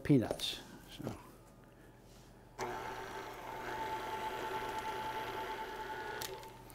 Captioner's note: mixer whirring